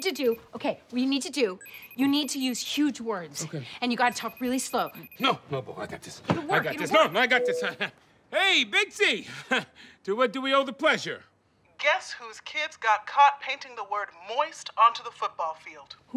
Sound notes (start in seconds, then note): 7.6 chuckles